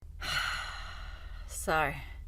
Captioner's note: sighs